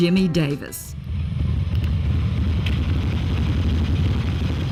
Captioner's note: engine rumbles